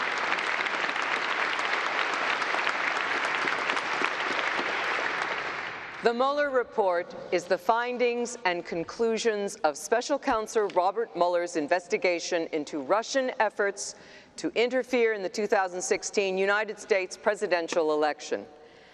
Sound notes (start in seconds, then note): 4.9 applause